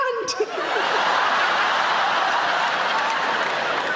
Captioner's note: audience laughing